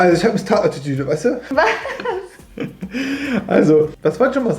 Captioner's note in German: lacht